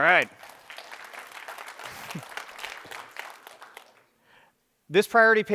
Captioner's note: applause